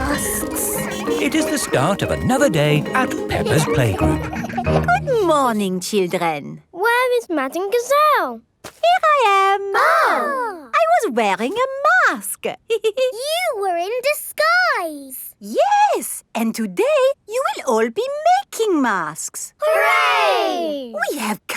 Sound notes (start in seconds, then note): 9.7 exclaiming; 12.8 giggles